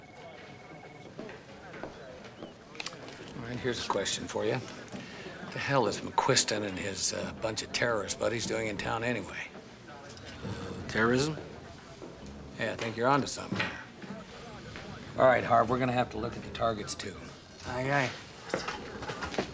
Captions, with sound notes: Well, possession is nine-tenths of the law. Of course, you can negotiate for their liberation. (chuckles) Old trick. Yeah, one I miss. (phone ringing) Right on time. Never fails.